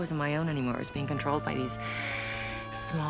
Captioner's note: exhales deeply